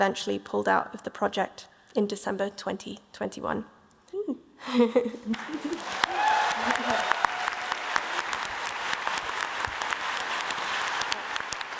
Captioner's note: applause